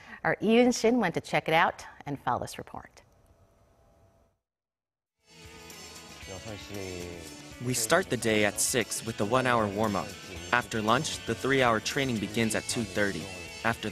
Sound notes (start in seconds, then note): 5.7 Korean